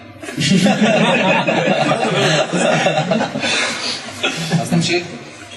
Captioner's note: laughter